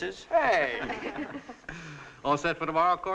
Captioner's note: all chuckling